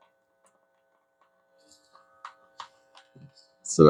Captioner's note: silence